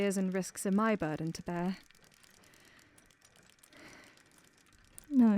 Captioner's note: sable exhales